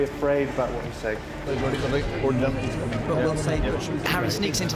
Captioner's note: chattering